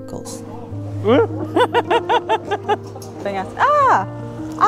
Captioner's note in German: Lacht